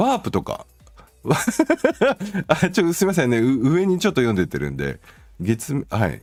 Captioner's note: laughter